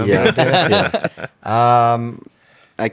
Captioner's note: laughs